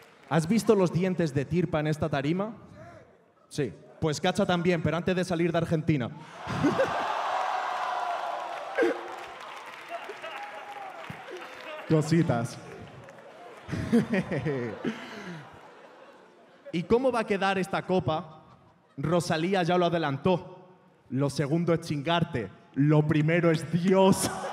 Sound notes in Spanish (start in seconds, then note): 7.6 Aplausos